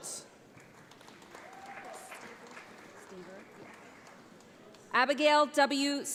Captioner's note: audience applauds